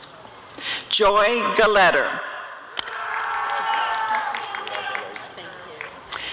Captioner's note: applause and cheering